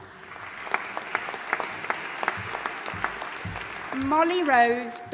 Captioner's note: audience applauding and cheering